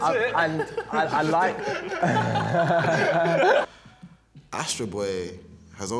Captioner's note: laughs